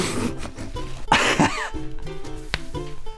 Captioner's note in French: rire